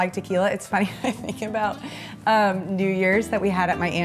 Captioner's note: laughs